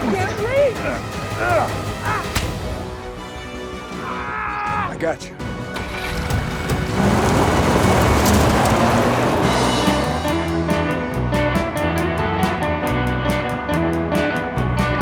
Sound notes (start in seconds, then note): 1.3 Chef grunts; 4.0 Tector yells; 7.3 tires skidding; 10.3 energetic music